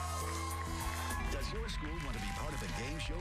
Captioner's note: cheers and applause